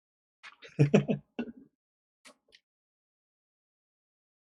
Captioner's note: chuckles